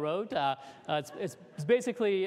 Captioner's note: laughter